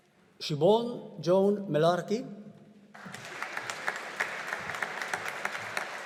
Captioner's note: audience applauding